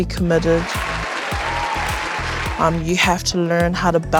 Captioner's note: crowd cheers